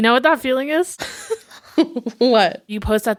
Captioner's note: laughs